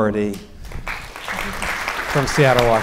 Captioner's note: audience applauding